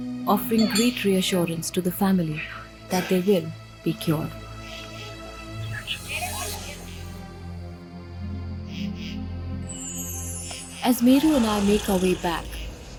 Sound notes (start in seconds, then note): 4.3 crickets chirpping; 4.6 enigmatic music; 12.1 car engine revving